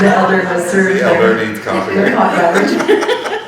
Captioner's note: all laughing; laughing